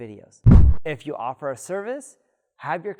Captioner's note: air whooshing